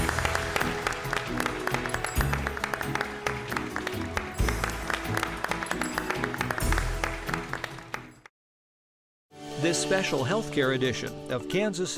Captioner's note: applause